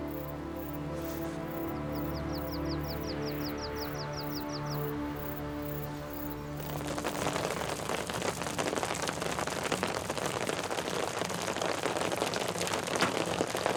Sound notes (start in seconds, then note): 2.0 birds chirping; 6.7 beating hail